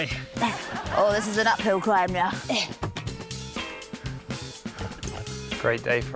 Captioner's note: grunts